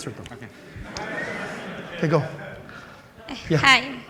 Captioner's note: laughter